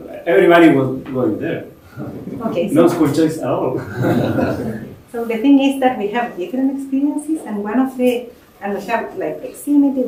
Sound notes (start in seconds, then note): 3.8 laughter